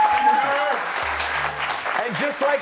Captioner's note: cheers and applause